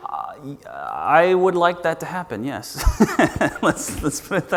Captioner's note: laughs